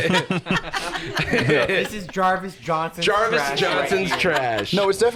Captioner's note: laughs